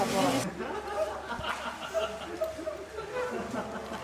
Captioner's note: laughing; speaking in foreign language